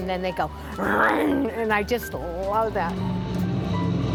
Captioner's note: imitates engine